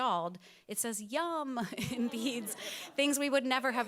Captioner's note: audience chuckles